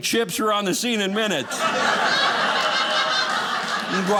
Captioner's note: audience laughing